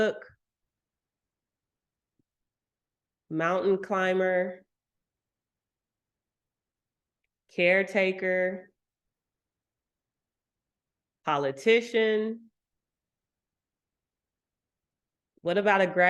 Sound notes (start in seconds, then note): none